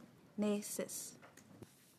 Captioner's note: speaking French